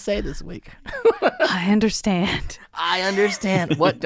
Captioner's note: laughing